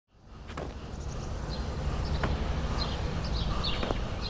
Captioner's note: birds chirping